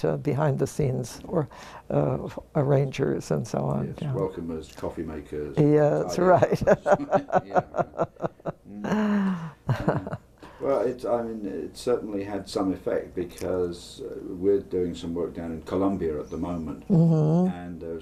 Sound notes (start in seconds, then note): 6.2 laugh